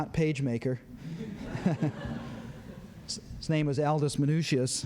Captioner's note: laughter